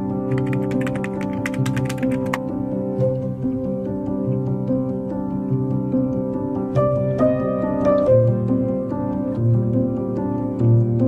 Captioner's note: applause